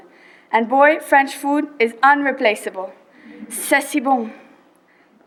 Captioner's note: speaking French